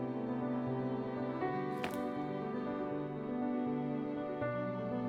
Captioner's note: slap